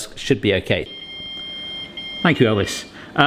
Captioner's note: alarm rings